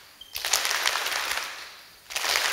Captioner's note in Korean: 손들음/박수